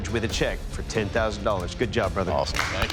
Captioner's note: applause